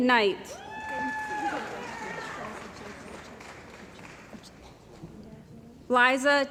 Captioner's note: cheering & Applause